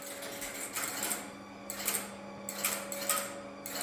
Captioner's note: sounds of a mechanical computer working